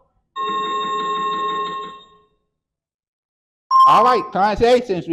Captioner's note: chiming sound effect